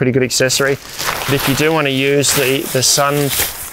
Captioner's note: tent crumpling